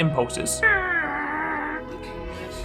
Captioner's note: grunting